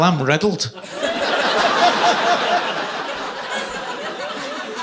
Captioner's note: audience laughing